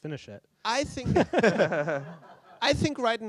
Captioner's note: laughter